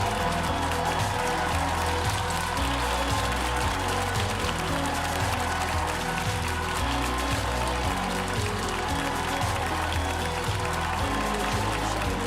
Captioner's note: applause